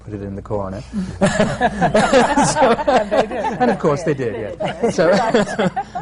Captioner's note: laughter